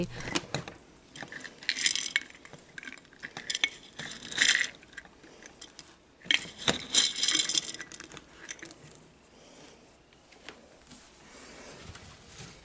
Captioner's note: pellets Moving Around